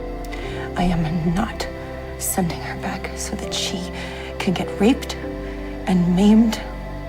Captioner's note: voiceover